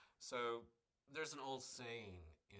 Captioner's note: none